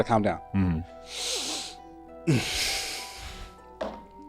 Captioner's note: inhales and exhales